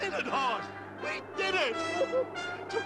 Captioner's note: laughs